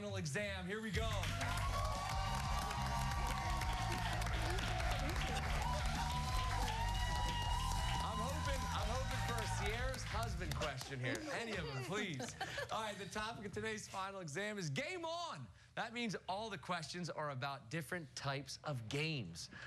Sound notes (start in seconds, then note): 2.1 cheers and applause